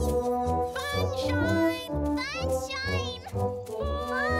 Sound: all calling out

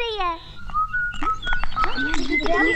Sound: whistling

